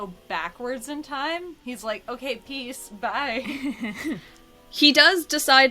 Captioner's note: laughs